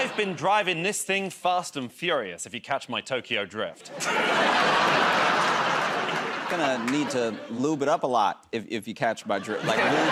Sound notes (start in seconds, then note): 3.8 laughter